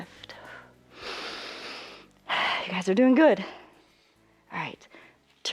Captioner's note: inhales and exhales